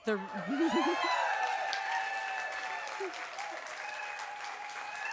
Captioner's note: applause